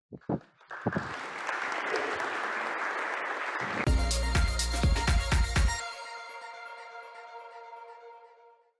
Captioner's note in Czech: Potlesk